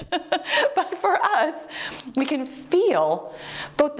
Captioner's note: timer beeps